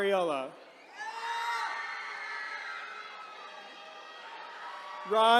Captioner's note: attendees cheering